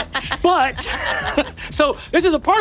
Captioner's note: players laughing